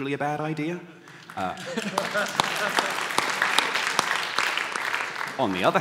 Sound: applause

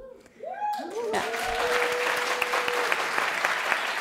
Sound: cheering and applause

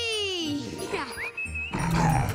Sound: whistling

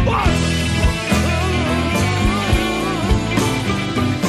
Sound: whining

